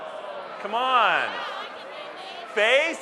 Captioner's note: audience Murmurs